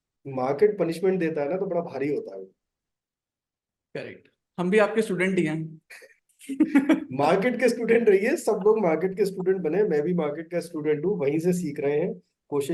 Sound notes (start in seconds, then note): 6.2 laughs